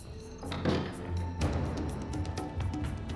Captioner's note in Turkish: Kapı kapanma sesi; Müzik - Gerilim